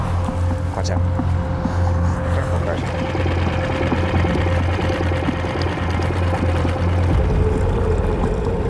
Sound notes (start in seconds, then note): 0.0 tense music continues; 0.0 machine droning